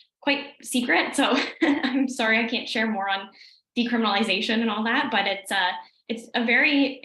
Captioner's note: laughs